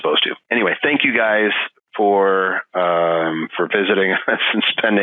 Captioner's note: laughing